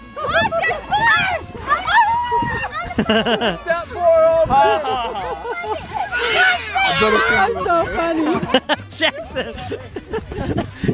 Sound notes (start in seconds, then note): 1.8 laughs; 1.8 yells